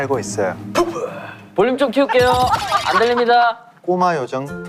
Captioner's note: laughing out loud